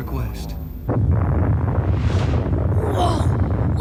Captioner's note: rumbling